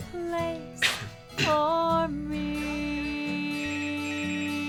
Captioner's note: coughing; phone ringing